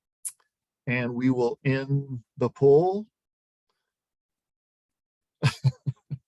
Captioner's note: laughs